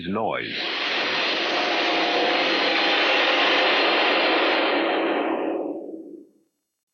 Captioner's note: whining, aircraft-like engine noise